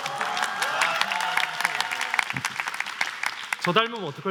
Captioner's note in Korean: 박수